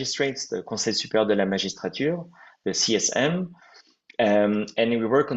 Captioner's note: french